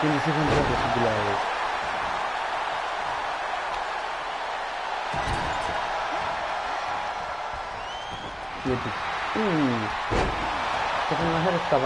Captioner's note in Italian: Applauso